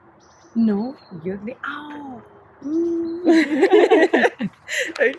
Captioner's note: laughts